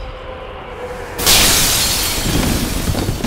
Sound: glass shatters again

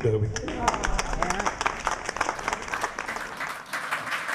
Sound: loud clapping

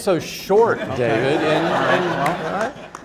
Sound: laughter

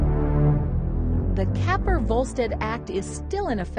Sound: voiceover

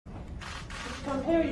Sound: camera shutters

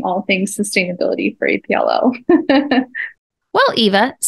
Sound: laughing

